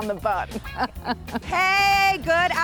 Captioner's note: laughs